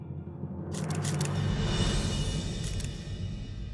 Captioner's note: photo clicking